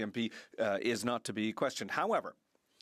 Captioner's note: speaking French